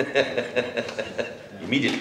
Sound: laughter

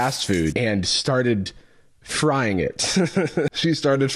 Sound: laughs

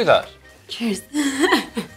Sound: laughs

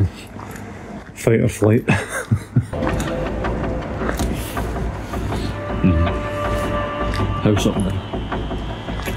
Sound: laughter

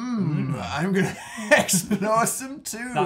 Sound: both laughing

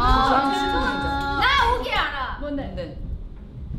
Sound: speaks in Korean

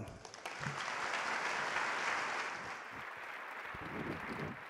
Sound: audience applauding

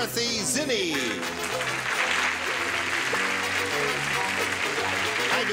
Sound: applauding

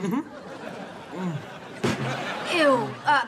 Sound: moans

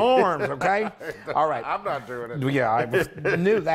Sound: laugh

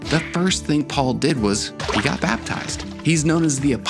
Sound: water splashing

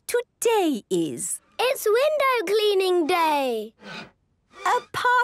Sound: squeegee squeaking

